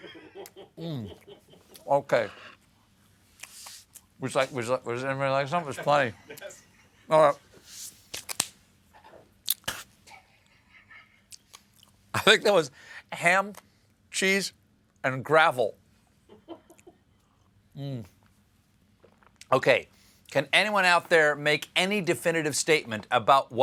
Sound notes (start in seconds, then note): 10.4 laughter; 16.3 laughter